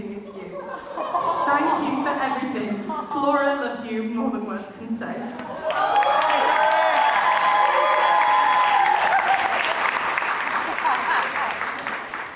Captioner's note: audience cheers